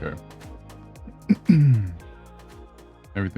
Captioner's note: clears throat